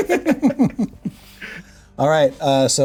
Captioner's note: players laughing